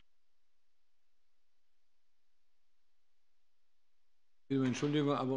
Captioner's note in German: Beifall bei der FDP